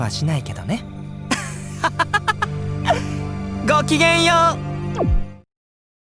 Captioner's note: laugh